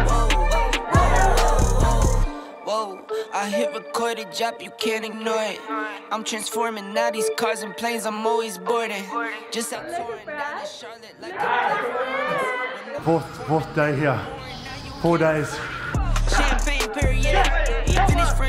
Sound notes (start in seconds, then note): 11.2 excited shouting; 16.2 shouting